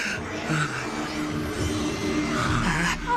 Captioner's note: snarling